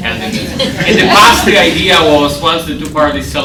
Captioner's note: laughter